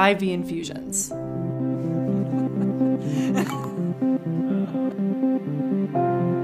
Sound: mellow music; laughs; mellow music

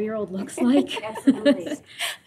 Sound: laughter

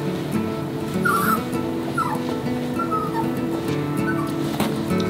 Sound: Giggles whines

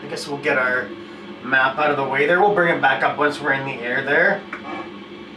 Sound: squeak

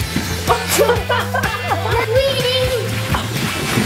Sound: laughter

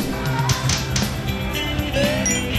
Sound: slapping x3

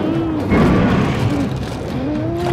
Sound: snarling

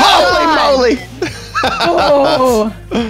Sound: screams; laughs

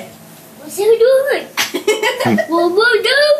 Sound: laughter

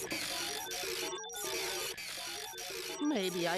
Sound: machine whirring; beeping

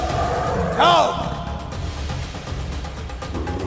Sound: lion roars

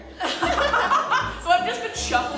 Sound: laughs

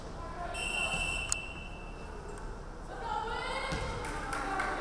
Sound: referee whistling

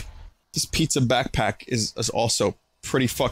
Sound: normal voice

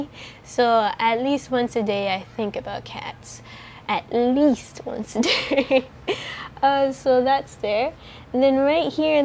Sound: laughs

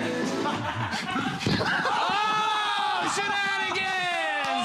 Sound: applause

